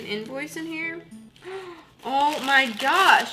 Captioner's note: gasp